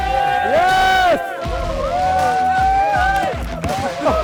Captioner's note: crowd cheering